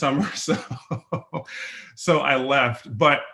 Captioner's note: laughs